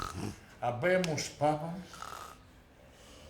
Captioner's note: Felix snoring